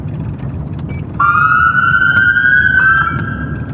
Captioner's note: sirenwail